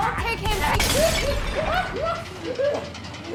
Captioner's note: Ramsey laughs; gun fires; urgent music